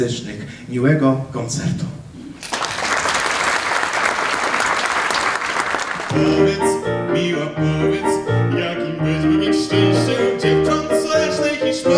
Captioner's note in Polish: oklaski